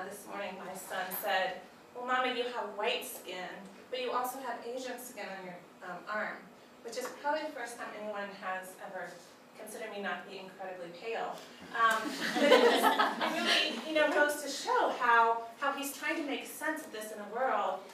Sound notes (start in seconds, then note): 12.0 group laughs